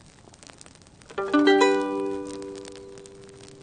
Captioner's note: fire crackling